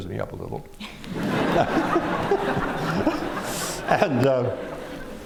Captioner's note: laughter